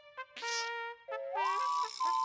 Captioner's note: another alarm